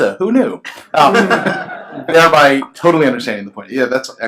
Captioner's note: laughs